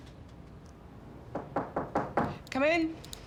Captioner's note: door knocking